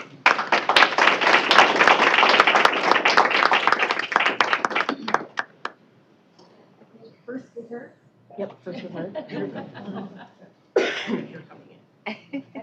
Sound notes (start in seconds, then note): 0.0 applause; 7.4 indistinct chatter